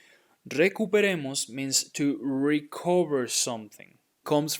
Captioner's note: speaking in Spanish